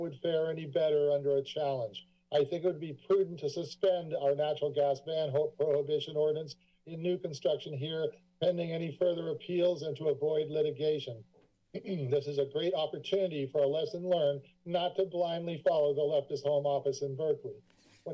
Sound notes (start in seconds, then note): 11.6 clears throat